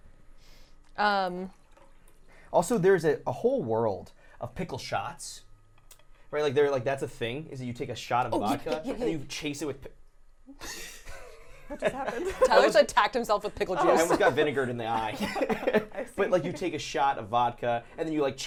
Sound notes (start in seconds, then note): 10.5 laughing